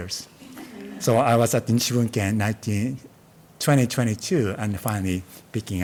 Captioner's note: speaking in Japanese